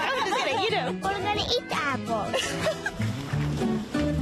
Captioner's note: laughter